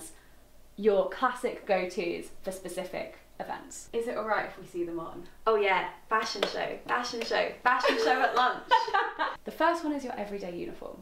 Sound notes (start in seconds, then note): 7.8 laughing